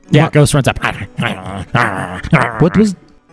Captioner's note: makes weasel sounds